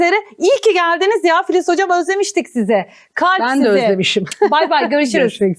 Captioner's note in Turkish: kahkaha